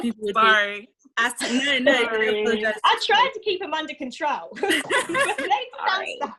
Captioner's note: laughs; laugh; laughs